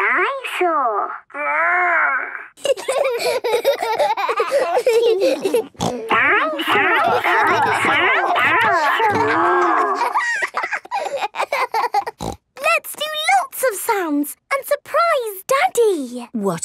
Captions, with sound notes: - Dinosaur. Rrrr! (giggling) (snorting) - Dinosaur. Dinosaur. Dinosaur. Dinosaur. Rrrr! - Let's do lots of sounds and surprise Daddy!